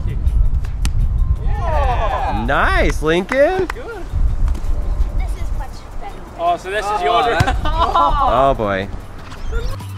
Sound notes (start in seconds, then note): 2.8 voiceover; 8.2 voiceover